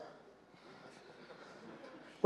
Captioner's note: laughter